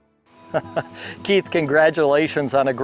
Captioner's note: chuckles